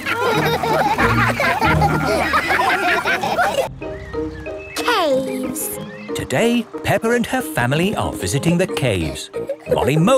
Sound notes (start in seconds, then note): 0.0 all laugh